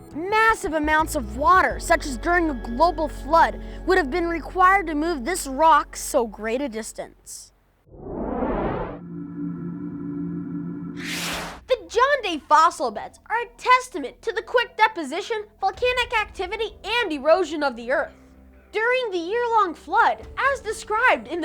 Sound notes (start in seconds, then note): 7.9 whoosh; 8.9 hum; 11.0 zap